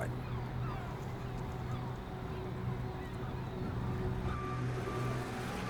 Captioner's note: birds cawing; ominous music; truck beeping